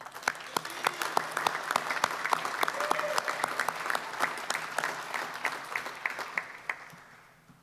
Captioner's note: applause